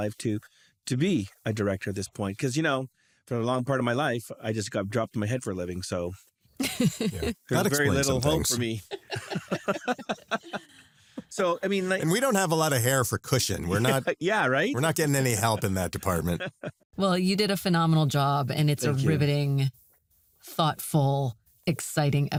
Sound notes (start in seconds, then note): 6.6 laughs; 8.9 all laughing